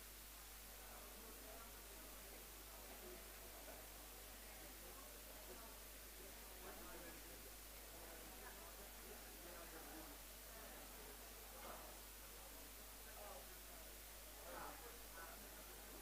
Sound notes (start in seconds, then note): 1.5 background chatter